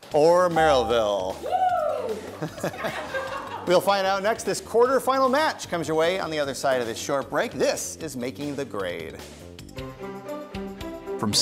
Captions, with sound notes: Or Merrillville. (contestants cheering) (laughter) We'll find out next. This quarter final match comes your way, on the other side of this short break. This is Making the Grade. (gentle music)